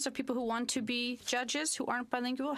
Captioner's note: speaking French